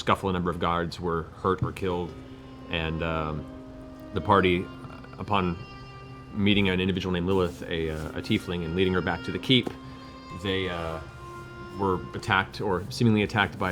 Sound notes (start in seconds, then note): none